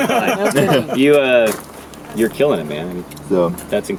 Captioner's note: laughing